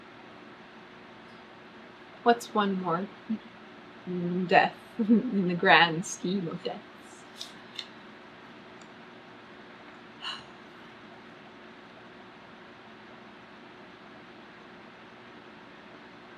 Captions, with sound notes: WHAT'S ONE MORE DEATH IN THE GRAND SCHEME OF DEATH [EXHALES LOUDLY]